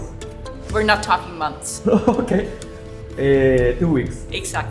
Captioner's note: laughs